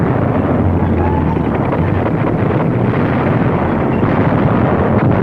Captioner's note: tank squeaking